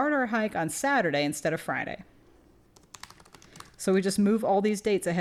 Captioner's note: typing